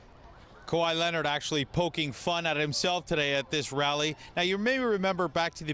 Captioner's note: cheers and Applause